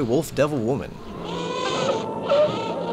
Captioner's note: baby crying